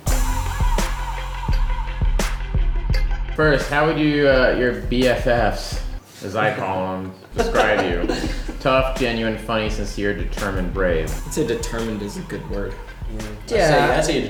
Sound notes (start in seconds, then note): 0.0 mid-tempo music; 7.0 laughs